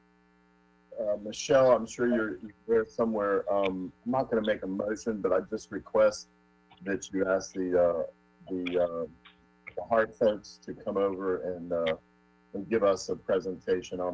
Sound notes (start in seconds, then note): 6.5 ~audio distortion~